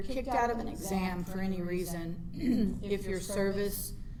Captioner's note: clears throat